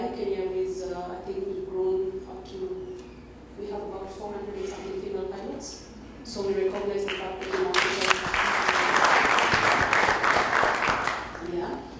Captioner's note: applause